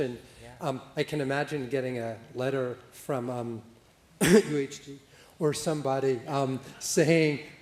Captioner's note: coughing